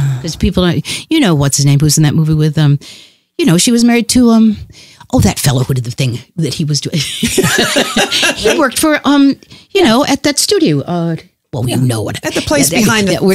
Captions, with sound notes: Because people- you know, what's his name? Who's in that movie with um-? You know, she was married to um, oh, that fellow who did the thing, that he was doing? (Laughs) He worked for, um, you know, at that studio, uh, well we have no idea. Sharon Johnson At the place behind the car, with the, behind, you know-